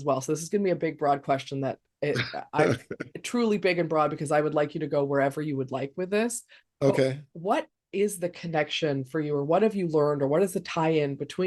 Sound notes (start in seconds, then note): 2.2 laughing